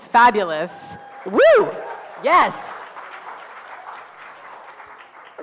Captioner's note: audience cheers